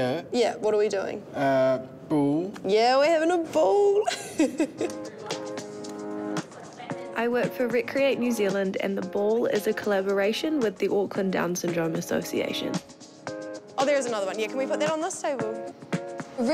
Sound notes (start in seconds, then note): 4.0 laughs